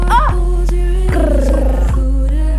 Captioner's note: mimicking the click-y drum roll